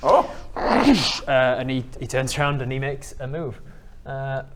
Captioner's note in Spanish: Cwooosh